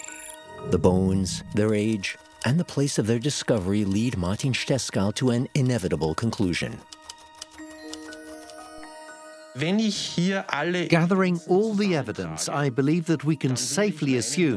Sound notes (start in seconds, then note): 6.9 keyboard typing